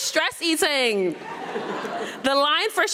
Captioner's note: audience laughing